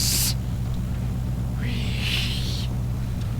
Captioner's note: wheeeeeeze; wheeeeeeeeeeze